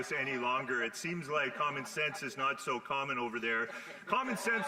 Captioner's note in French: voix de l'interprète